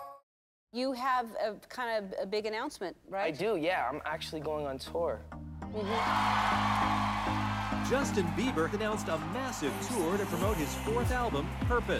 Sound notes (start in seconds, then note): 5.7 crowd cheering